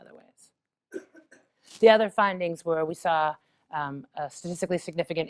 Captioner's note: cough